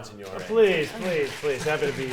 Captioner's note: audience applauding